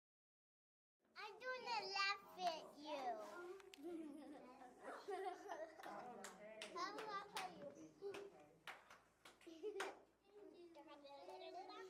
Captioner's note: sounds of children in the classroom